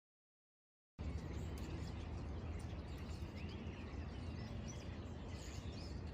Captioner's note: sounds of birds